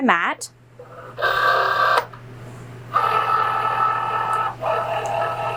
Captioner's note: machine whirring